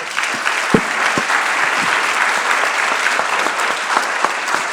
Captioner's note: audience applauding